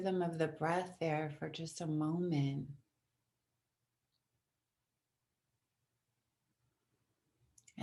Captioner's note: silence